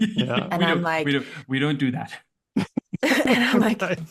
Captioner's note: laughter